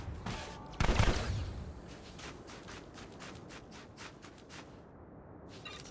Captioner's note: gunshots